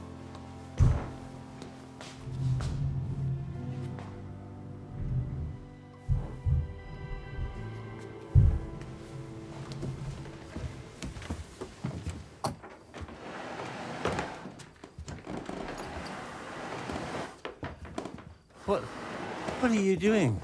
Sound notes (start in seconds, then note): 0.8 thudding; 6.0 thudding